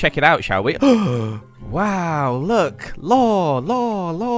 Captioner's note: gasp